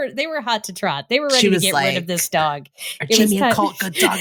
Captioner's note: serious tone